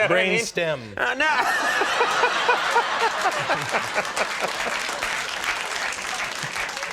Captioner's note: audience laughs and claps